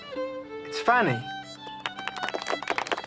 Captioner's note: others clapping